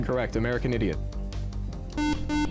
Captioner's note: beep